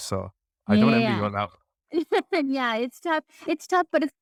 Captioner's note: laughing